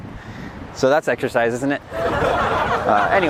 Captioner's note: laughter